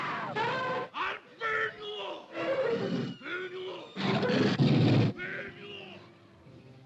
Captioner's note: cacophony of animal noises; grumbling; cacophony of animal noises